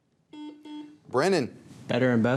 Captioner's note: buzzer dings